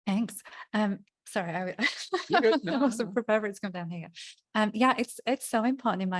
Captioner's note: laughing and mumbling